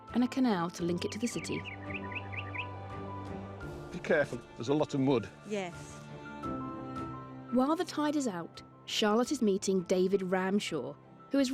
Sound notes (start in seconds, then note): 0.7 birds chirping; 1.9 gentle upbeat music